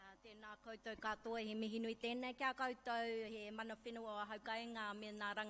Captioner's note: speaks in a foreign language